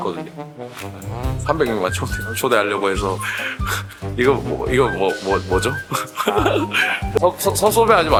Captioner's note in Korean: 웃음